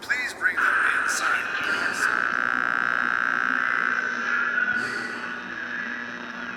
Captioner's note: interferencia de radio zumba